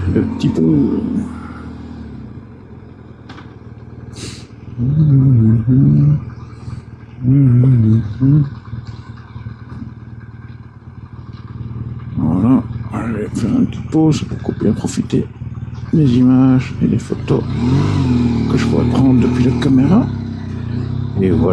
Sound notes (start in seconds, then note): 6.4 engine